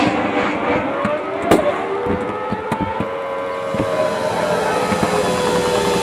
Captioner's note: sound of a fighter aircraft swerving; siren going off; sound of a machine gun firing